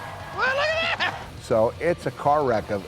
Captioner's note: laugh